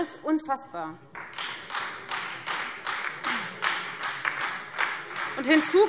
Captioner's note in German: Beifall Freie Demokraten und vereinzelt DIE LINKE